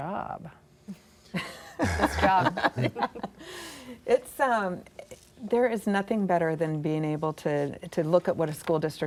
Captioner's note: laughter